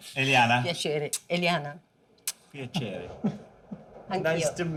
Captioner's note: speaking Italian